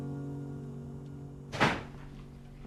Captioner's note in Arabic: إغلاق الباب